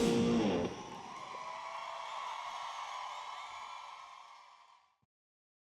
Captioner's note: crowd cheers